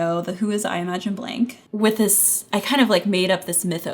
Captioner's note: none